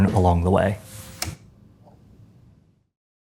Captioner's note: switch clicks